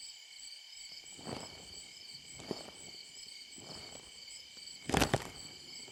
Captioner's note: slow, drudging footsteps crunching